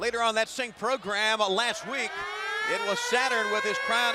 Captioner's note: crowd cheering